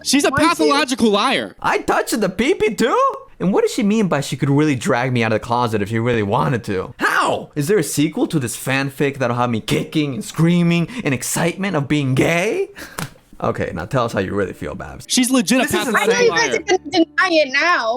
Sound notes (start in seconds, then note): 12.9 laughs